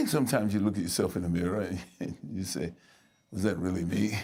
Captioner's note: chuckling